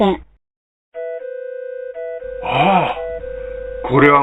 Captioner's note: alarm sound